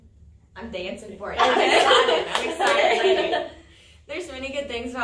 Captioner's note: all laugh